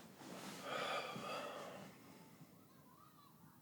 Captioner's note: sighs